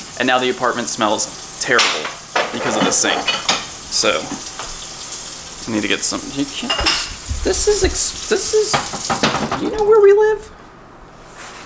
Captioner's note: high pitched